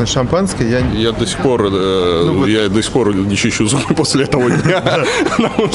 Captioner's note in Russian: смех